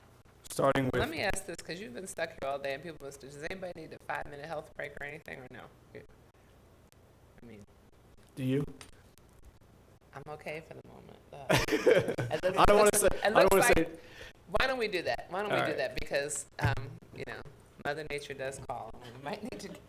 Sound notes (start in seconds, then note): 11.5 laughs